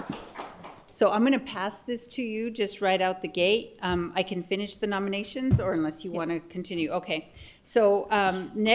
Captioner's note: applause